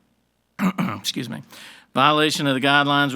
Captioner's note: clears throat